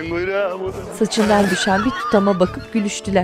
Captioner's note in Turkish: Gülme sesleri